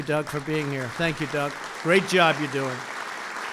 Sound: applause

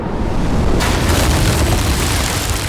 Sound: lightning flashes. CRASH!!!

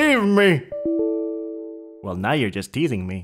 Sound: windows 10 notification sound

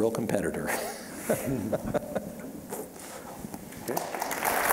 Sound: chuckling; applause

